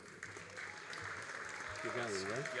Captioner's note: all applauding